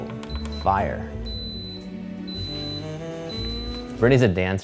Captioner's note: pressure cooker beeping